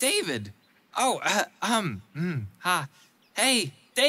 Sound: stammers

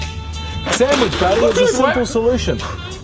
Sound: spit-laugh

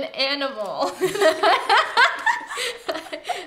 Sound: laughs

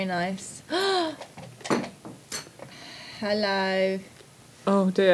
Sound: gasps

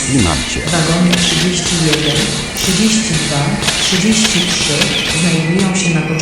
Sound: railway Station Announcement; railway Station Announcement

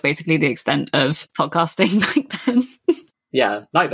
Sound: laughs

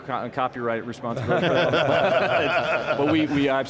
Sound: group laughing

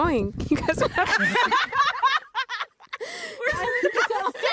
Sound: laughter

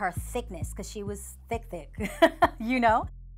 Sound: laughing

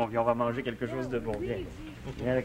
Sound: speaking French

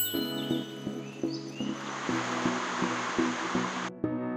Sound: an insert of the valley with the sound of birds

